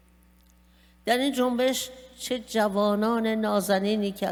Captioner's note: speaking persian